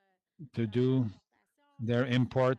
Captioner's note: speaking French